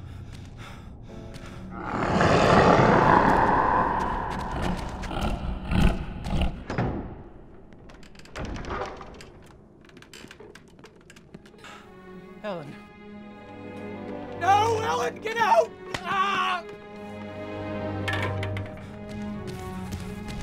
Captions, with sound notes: (panting) (growling) - Ellen. No, Ellen, get out! (shouting)